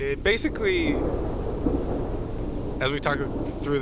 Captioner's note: thunders